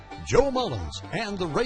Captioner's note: voiceover